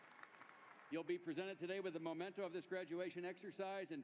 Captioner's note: applause